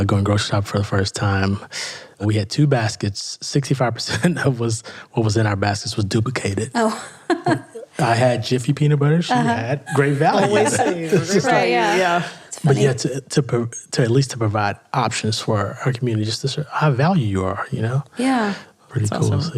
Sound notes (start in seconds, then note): 6.7 laughs; 9.4 everyone laughing